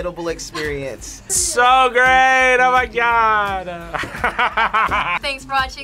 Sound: laughs

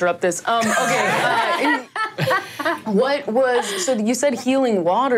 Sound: all laughing

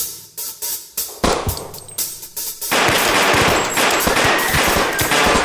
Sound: gunshots fire

